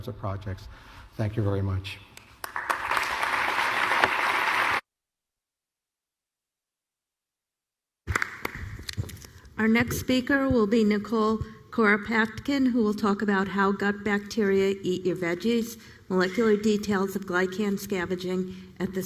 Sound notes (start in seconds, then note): 2.2 applause